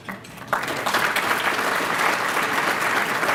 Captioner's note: applause